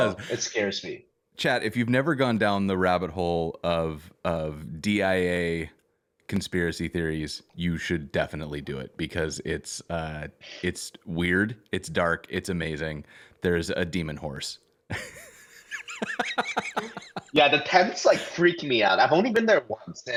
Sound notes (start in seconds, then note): 14.9 laughter